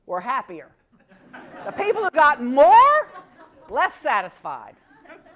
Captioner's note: laugh